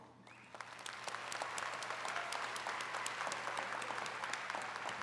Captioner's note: attendees clapping